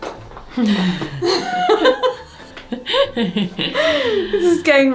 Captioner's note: laughing